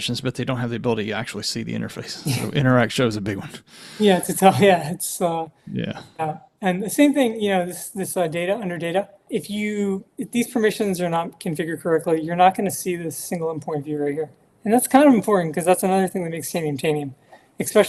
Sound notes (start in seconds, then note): 2.0 chuckling